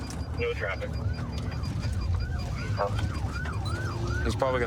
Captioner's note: sirens wailing